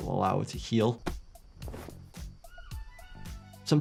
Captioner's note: upbeat music; animals calling